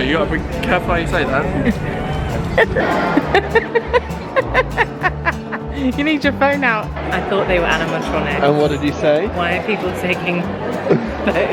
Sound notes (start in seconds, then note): 2.4 laughing